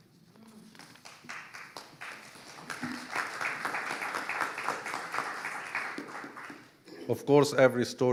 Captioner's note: audience applauding